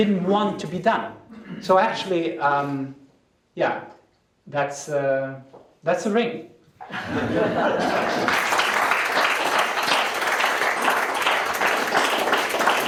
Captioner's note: applause